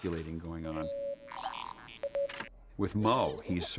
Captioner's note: low beeping